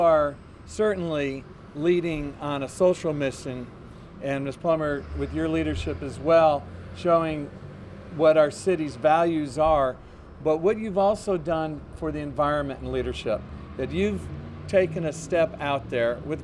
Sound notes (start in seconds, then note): none